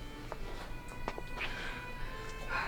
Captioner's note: kissing